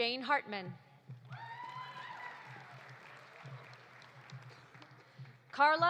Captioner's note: audience cheering; audience applauding